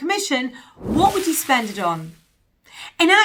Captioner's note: whooshing sound